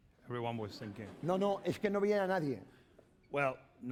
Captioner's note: speaking spanish